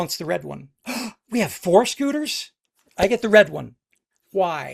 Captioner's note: gasps